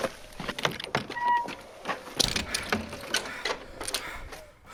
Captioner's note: creaking door